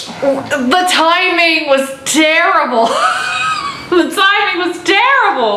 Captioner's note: laughing